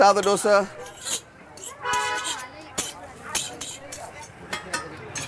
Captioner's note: metal scraping